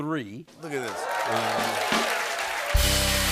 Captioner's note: cheers and applause